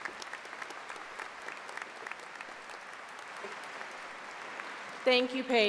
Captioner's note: applause